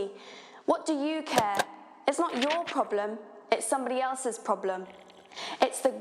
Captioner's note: rustle; drinking